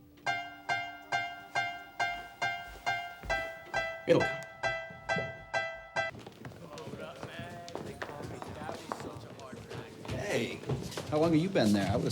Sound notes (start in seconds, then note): 0.0 simplistic piano chords; 6.2 students chattering